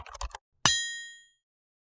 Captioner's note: typewriter; bell